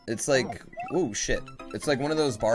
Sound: death audio

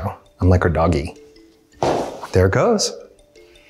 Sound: thump

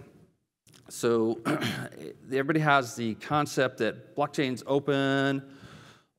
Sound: cough

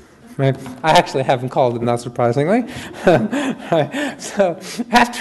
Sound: chuckles

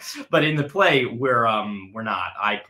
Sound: chuckling

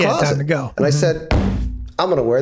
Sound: thuds desk

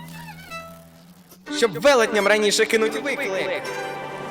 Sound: whining vibrato; echoing

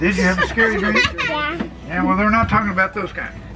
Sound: laughing

